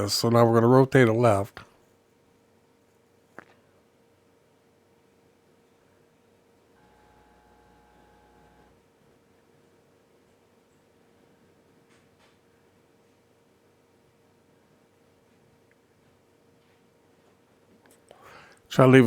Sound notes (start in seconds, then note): 1.9 silence